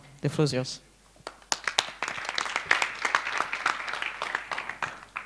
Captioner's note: applause